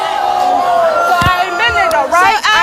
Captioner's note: audience boos